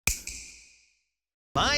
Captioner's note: snap